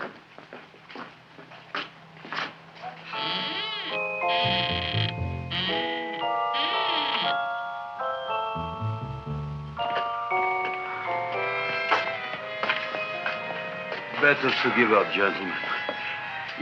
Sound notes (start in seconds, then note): 3.2 intriguing music; 4.3 Audrey Jr. creaking